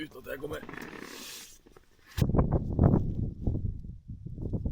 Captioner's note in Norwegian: snøfter